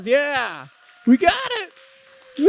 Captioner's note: applause